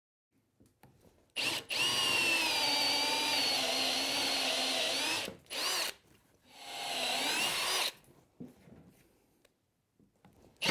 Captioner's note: drill